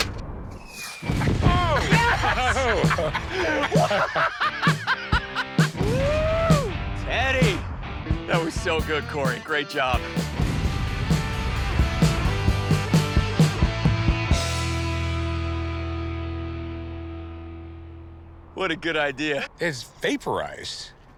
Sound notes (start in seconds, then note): 1.8 laughter